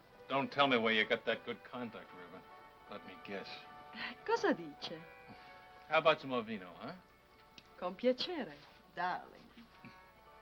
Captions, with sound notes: Don't tell me where you got that good-conduct ribbon. Let me guess. (speaking foreign language) How about some more vino, huh? (speaking foreign language) Darling.